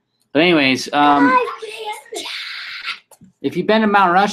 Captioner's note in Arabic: يهمس